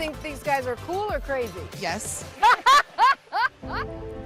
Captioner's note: laughter